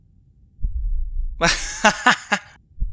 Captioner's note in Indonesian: ketawa